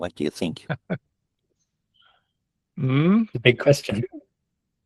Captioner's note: laughs